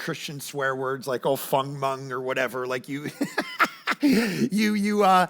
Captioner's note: laughs